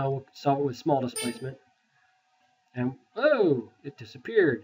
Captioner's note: beep